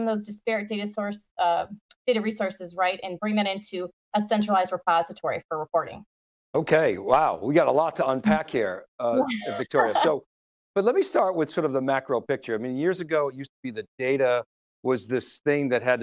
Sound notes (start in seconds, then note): 9.1 laughs